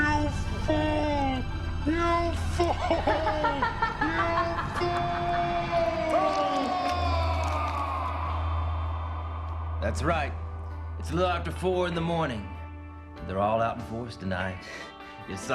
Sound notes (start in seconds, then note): 2.3 laughing; 6.6 yelling